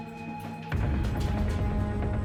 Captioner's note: footsteps running; rapid suspenseful music